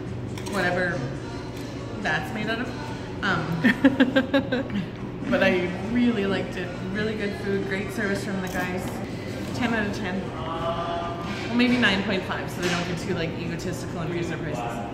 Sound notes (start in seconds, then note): 3.4 laughs